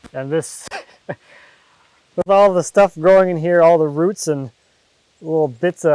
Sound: laughs

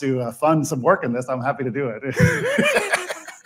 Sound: laughs

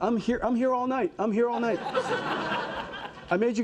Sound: audience laughing

